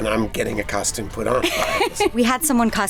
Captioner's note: laughter